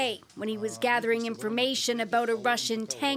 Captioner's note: foreign language